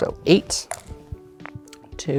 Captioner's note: dice clattering in cup